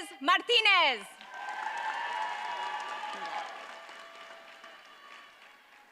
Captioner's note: audience cheers and applauds